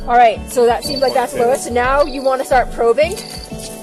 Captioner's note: beeping